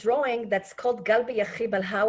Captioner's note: speaking Hebrew